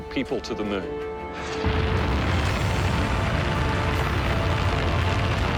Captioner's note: explosion